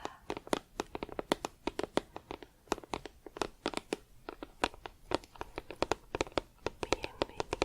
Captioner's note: tapping on plastic